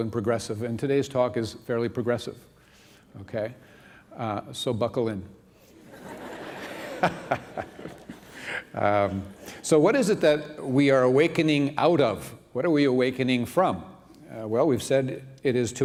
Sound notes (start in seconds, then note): 5.8 laughter